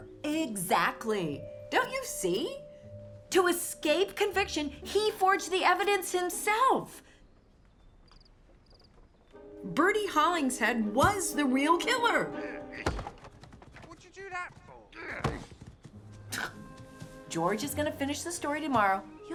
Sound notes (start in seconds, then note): 12.4 Reggie grunts; 12.5 horns thud; 16.1 scoffs